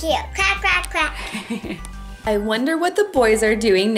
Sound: chuckling

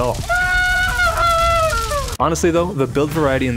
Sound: screaming in pain

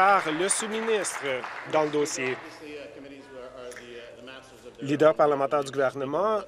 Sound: applause

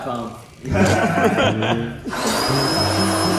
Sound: laughs

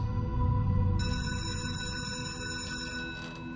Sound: bell rings

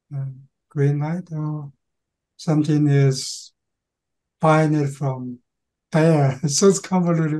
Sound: laughing

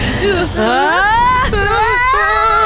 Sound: all scream

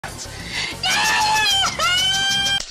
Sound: scream.mp3

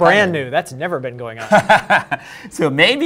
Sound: laughs

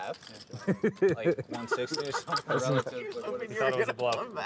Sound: laughing

